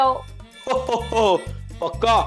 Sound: Santa laughing

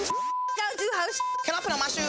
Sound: beep

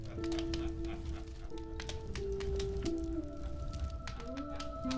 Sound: laughing

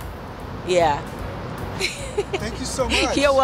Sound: laughter

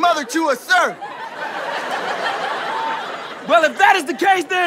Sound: audience laughter

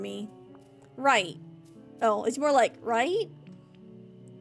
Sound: nervously

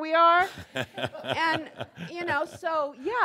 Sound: Adamus chuckles

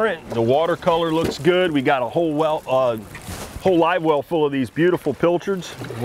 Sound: none

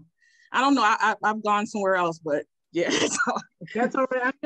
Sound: laughs

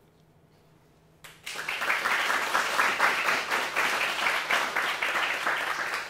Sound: audience applauding

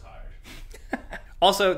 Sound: laughing

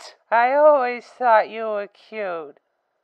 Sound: noticeably slurring

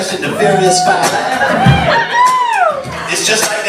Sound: cheers

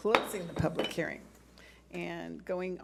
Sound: gavel bangs

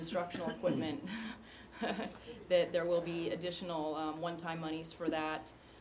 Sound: laugh

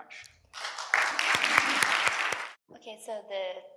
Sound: audience applauds

